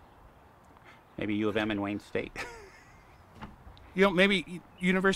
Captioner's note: chuckles